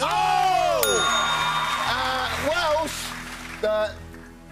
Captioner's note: ding; Welsh accent